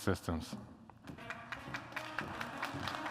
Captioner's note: applause